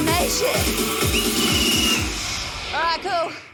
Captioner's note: whistle trills, music stops